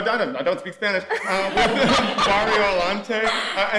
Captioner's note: all laughing